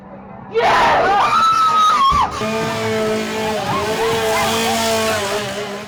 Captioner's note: screams